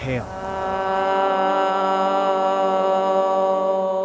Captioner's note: people chanting